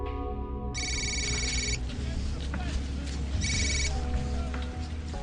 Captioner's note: cell phone rings